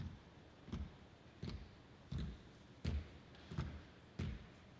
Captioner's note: footsteps rumbling